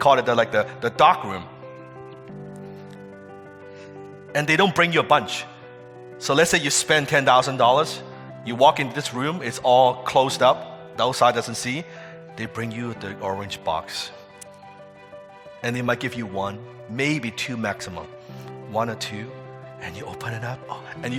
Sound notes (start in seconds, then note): none